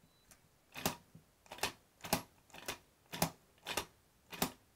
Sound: lock clicking

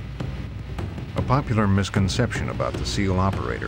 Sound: voiceover

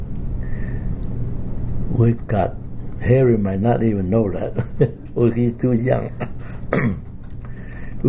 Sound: laughs; coughs

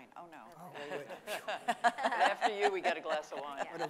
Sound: laughing

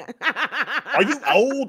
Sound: laughs

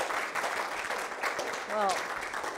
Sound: applause

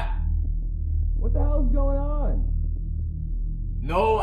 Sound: muffled voice

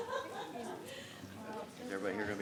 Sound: attendees laughing

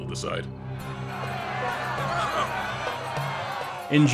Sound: cheers

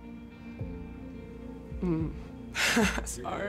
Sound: gentle cries

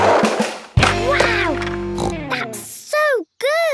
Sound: snorts

